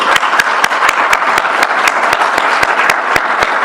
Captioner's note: applause